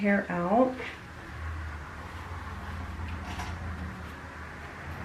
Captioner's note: engine rumbling